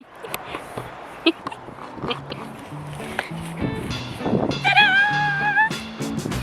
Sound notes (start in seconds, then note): 0.0 giggles